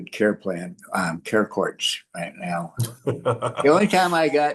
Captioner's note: laughs